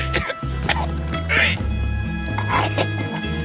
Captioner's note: coughing continues